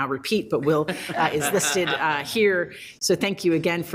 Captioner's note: group laughs